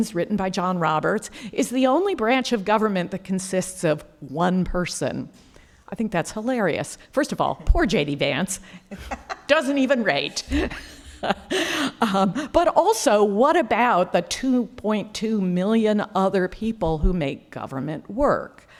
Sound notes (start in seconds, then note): 8.9 presenter laughing